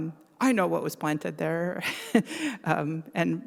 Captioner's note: laughs